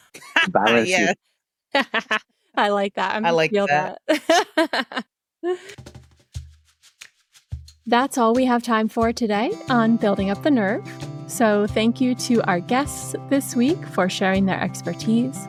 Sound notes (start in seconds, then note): 1.7 laughter; 4.0 laughter